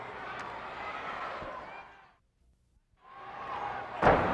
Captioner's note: audience cheers